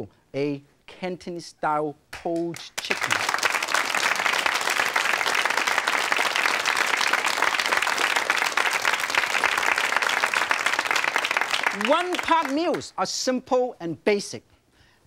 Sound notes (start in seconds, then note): 3.1 audience clapping